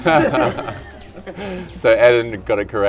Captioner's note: laughing